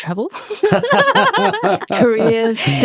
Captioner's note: laughing